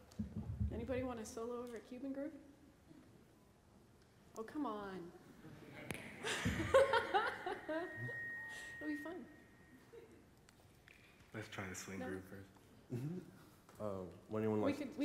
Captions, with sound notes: >> Anybody want to solo over a Cuban group? Oh, come on [laughs]. It'll be fun. >> Let's try the swing group first.